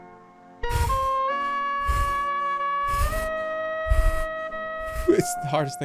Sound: breathes deeply

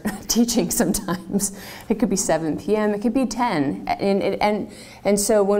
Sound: laugh

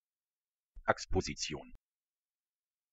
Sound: fast Pronunciation

